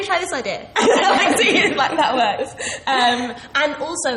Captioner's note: laughs